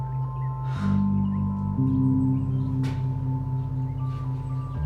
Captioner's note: sighs